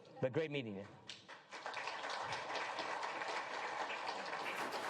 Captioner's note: applause